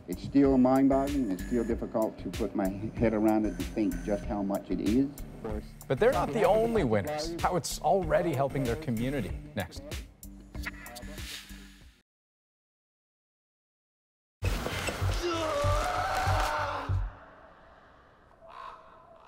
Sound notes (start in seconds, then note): 15.1 foot tapping; 15.2 groaning